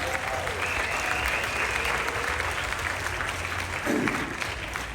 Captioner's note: applause, Cheering